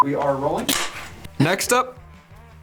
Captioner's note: extremly loud clap